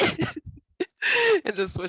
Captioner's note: laugh